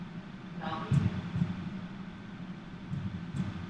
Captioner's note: heartbeats